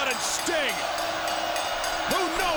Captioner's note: bell dings